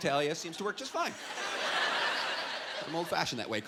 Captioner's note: laughter